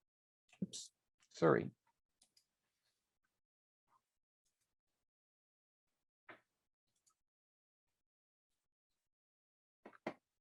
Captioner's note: brief silence